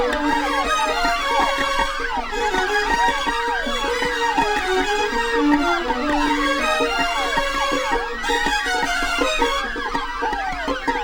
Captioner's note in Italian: Applauso